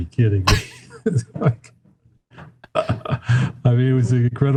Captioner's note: laughs